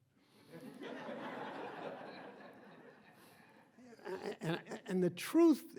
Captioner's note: audience laughing